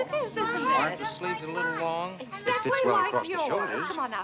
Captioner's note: indistinct conversations